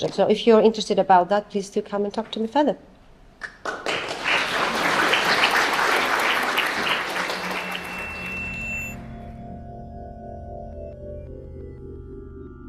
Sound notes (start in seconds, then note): 3.4 applause; 7.4 drone-like music